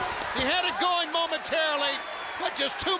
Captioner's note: crowd chatter